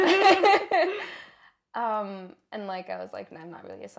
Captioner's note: laugh